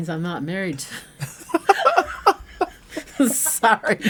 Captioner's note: laughing